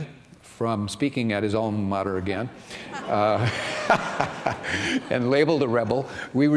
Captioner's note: laughter